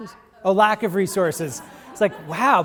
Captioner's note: audience laughing